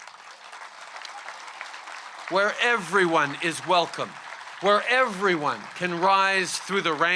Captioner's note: applause